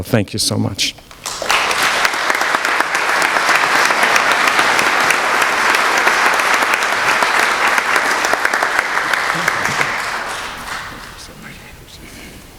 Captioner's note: applause